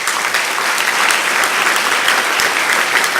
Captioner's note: applause